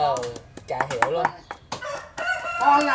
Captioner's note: rooster crowing